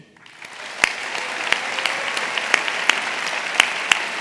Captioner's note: audience applauding